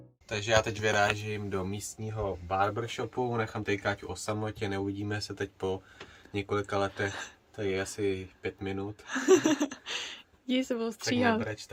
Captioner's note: haha